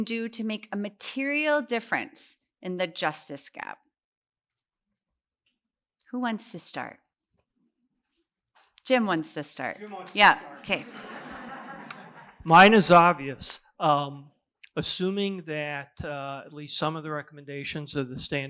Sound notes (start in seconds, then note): 10.3 laughter